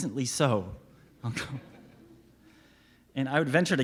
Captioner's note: laughs